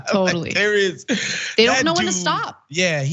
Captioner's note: laugh